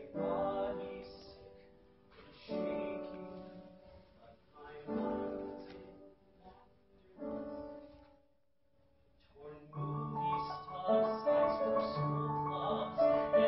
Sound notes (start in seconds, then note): 7.2 murmurs; 9.4 piano music drowns out singing